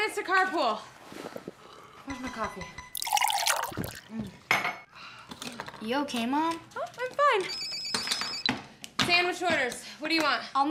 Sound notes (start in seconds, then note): 3.0 liquid splashing; 7.6 phone ringing